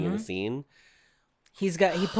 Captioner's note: sigh